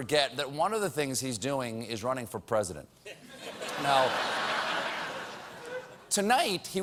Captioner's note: laughter